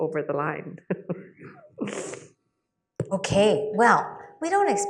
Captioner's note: laughs